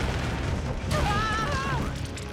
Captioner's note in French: crie